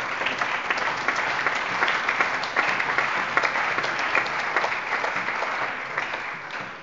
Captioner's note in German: Allgemeiner Beifall